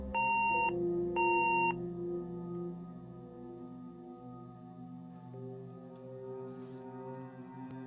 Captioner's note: beeping